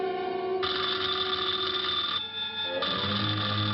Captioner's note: telephone ringing